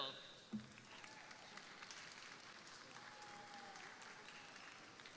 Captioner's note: crowd applauding